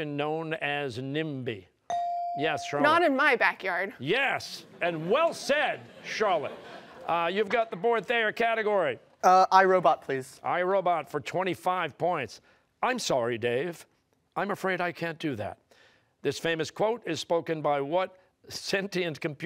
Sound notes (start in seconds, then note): 4.7 laughter